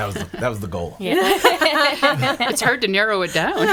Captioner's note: laughing